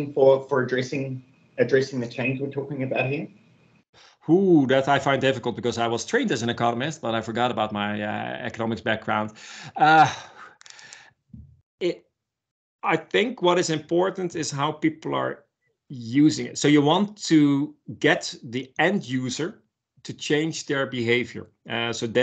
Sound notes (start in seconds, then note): 9.6 laughs